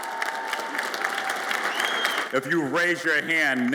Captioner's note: audience applauds and cheers